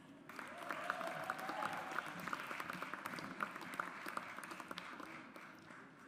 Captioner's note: audience applauds